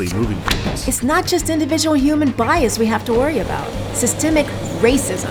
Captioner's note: podcast Voice